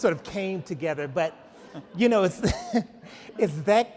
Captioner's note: laughs